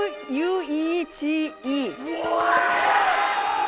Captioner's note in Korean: 딩동댕 소리